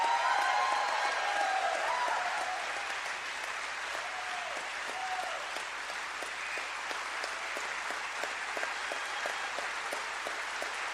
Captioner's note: applause